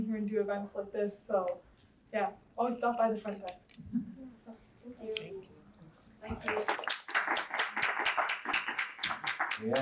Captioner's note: audience applause